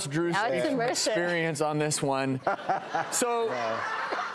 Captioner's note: laughing